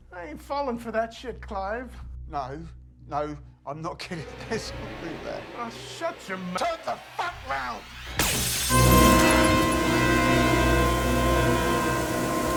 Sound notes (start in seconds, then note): 8.2 glass breaking